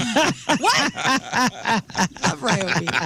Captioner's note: laughing